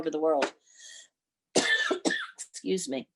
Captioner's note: woman coughs